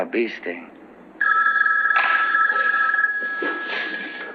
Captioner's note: phone ringing